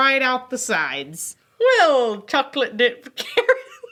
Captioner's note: laughs